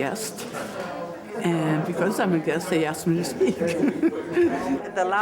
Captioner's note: chuckles